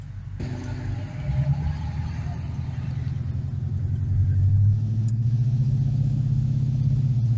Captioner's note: exhaust rumbling; transmission downshift